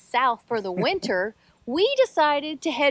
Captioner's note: laughs